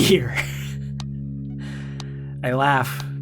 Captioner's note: laughs